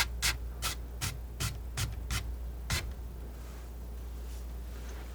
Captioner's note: scratching